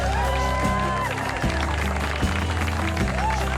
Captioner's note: cheering, applause